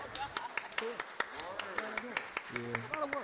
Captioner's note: applause